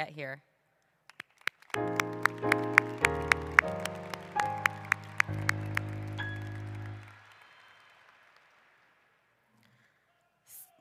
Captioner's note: applause